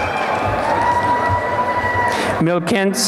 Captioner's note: applause and cheering